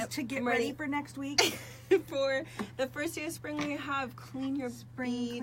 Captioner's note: laughs